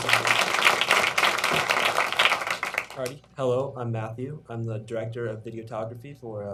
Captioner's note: applause